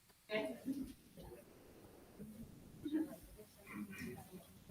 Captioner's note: attendees chattering